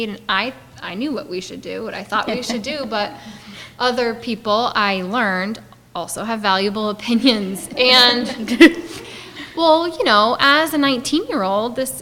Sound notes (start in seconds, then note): 7.0 audience laughing